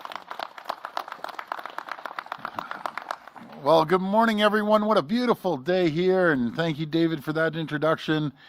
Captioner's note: applause